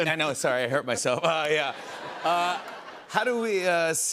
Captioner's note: laughter